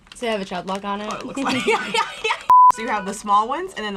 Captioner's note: laughing